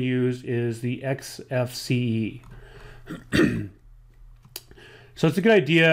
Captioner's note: clears throat